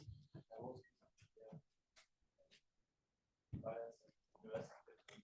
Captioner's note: student speaking faintly